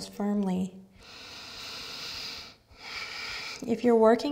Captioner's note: breaths